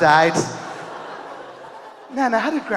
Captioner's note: audience laughing